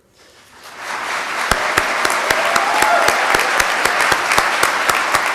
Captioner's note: applause